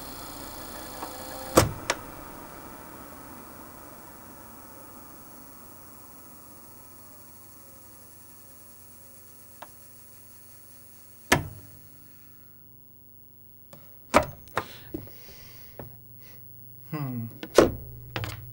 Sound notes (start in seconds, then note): 5.4 motor slowly slows; 11.3 click